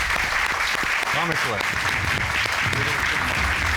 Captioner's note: applause